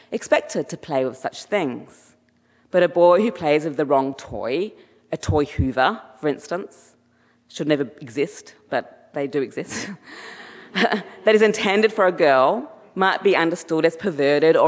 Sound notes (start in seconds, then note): 9.7 chuckles; 10.4 audience chuckling